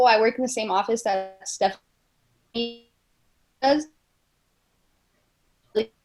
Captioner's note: audio cuts out